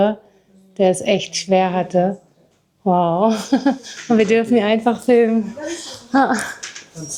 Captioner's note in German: gelächter